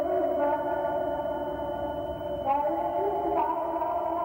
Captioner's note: humming